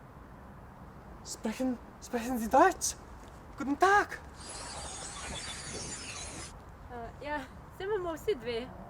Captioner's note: alien sounds